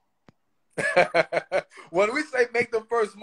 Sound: laughs

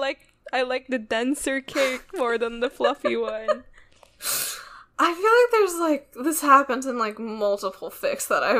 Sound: laughs

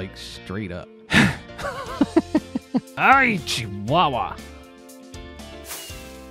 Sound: sighs; laughs tiredly

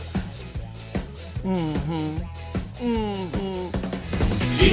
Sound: humming

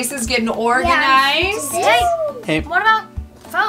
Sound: children agreeing

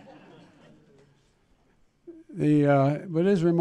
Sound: laughter

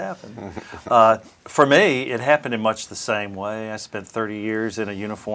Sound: chuckling

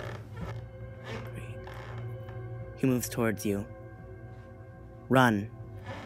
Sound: creepy music; creaks

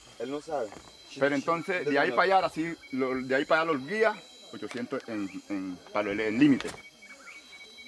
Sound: Spanish spoken audio

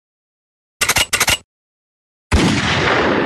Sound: 🔫 Guns cocking 🔫; 🔫 Bang! Bang! Bang! 🔫

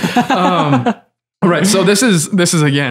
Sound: Father Innocent laughs

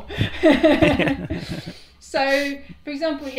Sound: laughing

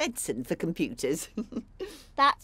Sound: chuckle

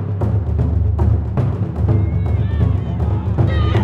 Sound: cheering

